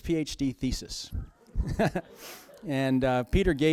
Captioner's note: laughter